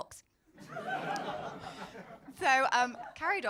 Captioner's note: crowd laughing